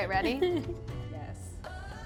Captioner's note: giggling